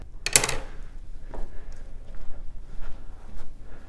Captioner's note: rod clacking